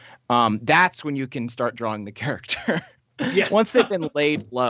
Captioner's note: chuckles